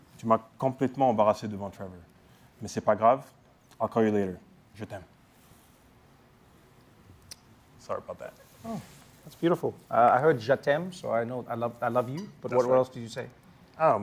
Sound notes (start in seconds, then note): 0.2 speaking french; 5.3 french; 10.6 french